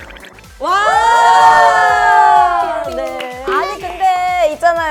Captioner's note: screaming